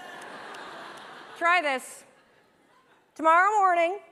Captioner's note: laughter